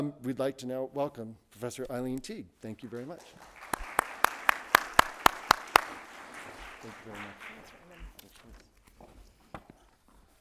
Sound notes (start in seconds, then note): 2.9 audience applauding; 2.9 clapping